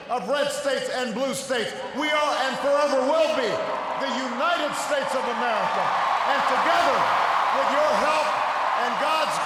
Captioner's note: cheers, applause; cheers, applause